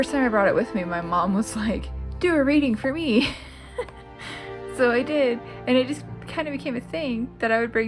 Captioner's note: laugh